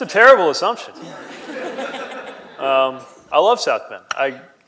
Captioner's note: laughing